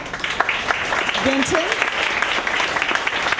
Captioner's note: applause